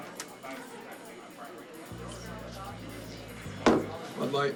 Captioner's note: crowd chattering